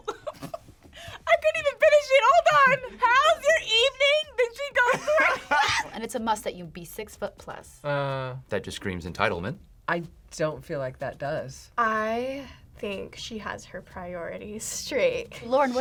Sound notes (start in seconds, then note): 2.2 laughs; 4.8 both laugh